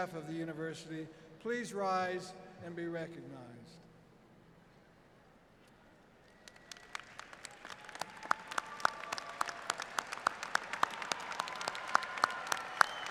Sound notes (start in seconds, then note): 8.8 applause